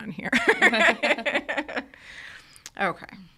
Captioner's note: hosts laughing